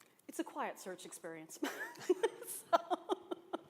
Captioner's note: laughter